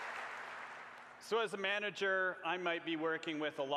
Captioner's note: applause